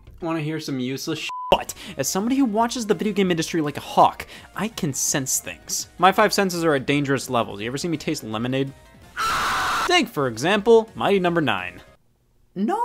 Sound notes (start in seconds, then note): 1.3 beep; 9.1 screams